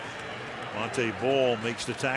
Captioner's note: pa announcement